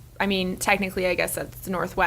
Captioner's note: none